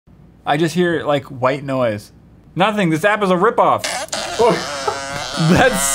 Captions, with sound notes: I just hear like white white noise. Nothing this app is a ripoff! *late reaction to fart noise*